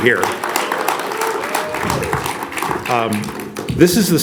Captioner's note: audience applauds and cheers